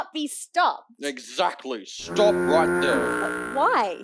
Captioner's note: honking